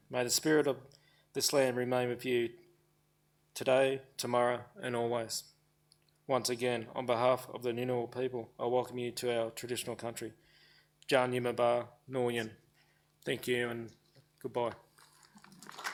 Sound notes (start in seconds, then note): 11.1 speaking foreign language; 15.0 audience applauds